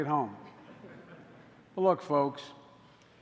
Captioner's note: laughter